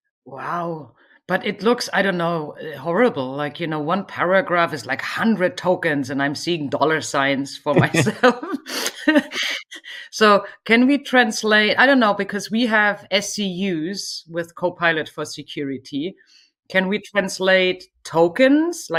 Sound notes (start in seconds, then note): 7.7 laughs